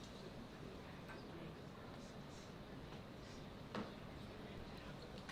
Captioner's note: board murmuring